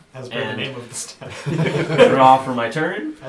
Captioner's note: all laugh